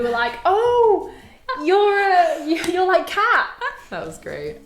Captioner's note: laughing